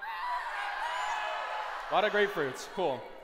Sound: shouting

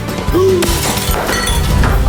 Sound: shattered glass sound

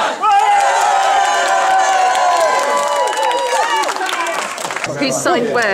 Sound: clapping and cheering

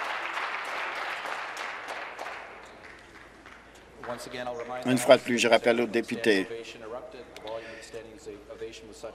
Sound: applause

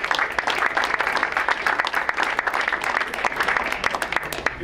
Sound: crowd applauds

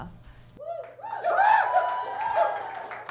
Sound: cheering

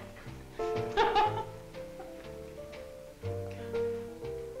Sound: upbeat music; Gypsy laughing

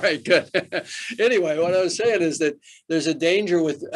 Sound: Arnold laughs

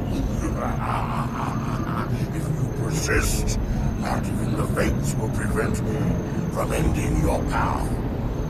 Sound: laughs

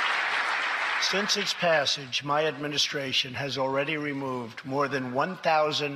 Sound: applause

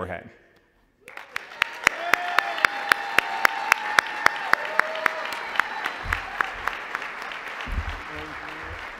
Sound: applause

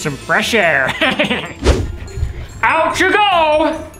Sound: Grinch laughing

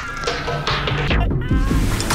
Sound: laughs

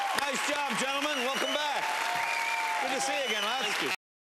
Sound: cheers and applause

